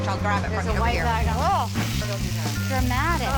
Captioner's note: indistinct chatter